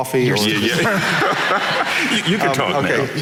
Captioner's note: audience laughing